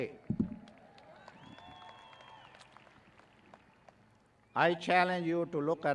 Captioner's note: graduates cheering